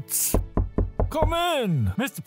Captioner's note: knock knock